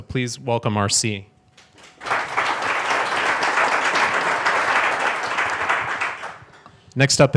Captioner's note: audience applauds